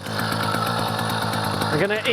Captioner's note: motor idling